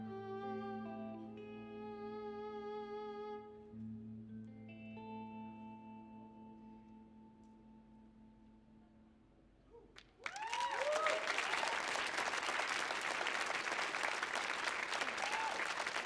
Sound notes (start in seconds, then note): 10.0 audience cheering and clapping